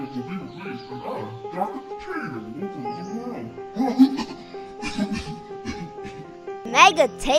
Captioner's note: cough